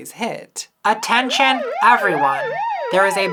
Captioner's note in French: sirène